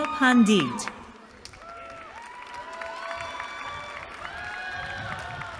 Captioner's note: cheering